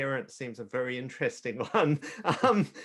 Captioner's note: chuckles